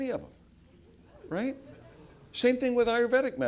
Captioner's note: laugh